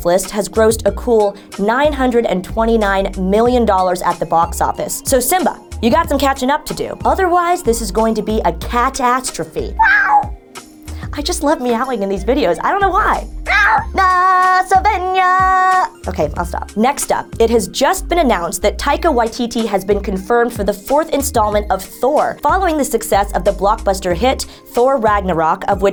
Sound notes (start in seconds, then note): 9.8 meow